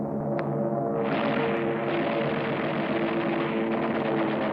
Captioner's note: gunfire